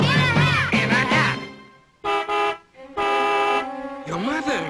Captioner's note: car horn